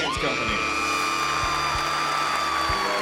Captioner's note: cheering